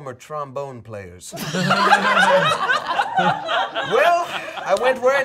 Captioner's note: all laughing